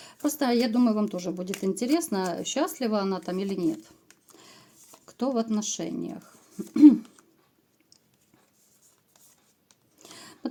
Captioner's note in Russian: откашливается